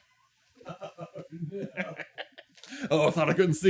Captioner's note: laughing wickedly